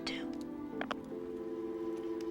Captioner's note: receiver clicking